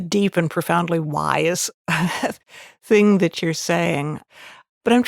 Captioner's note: chuckles